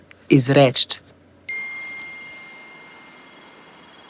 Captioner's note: message sound